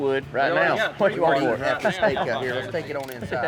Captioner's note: laughs